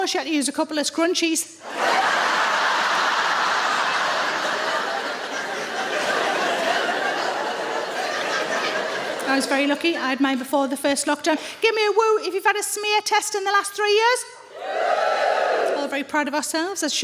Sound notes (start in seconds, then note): 1.6 audience laughs